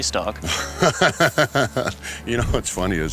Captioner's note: laughs